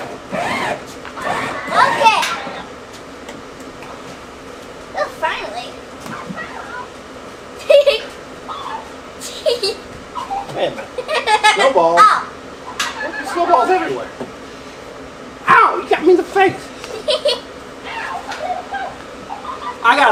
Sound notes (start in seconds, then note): 9.2 laughs; 12.6 assistant laughing; 16.8 assistant laughing